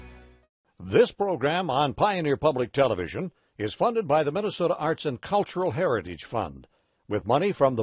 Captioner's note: voiceover